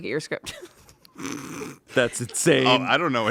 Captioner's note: everyone laughs